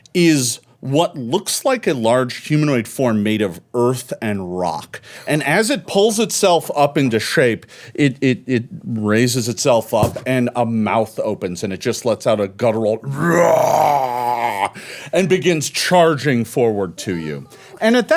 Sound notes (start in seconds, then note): 13.1 roar